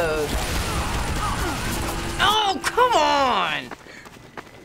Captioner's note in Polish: strzały i krzyki